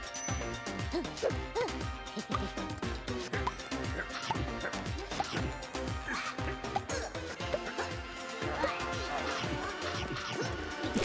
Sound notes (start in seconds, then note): 0.3 panting; 6.0 grunts; 8.6 chomping